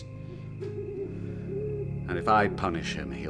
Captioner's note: owl hooting